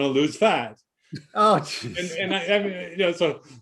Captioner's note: laughing